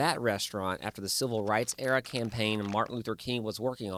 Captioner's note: projector rattling